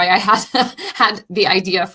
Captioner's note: laughing